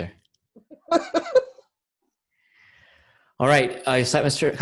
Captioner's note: laughs